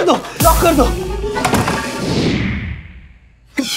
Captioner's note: Door closes